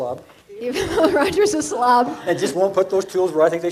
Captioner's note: laughing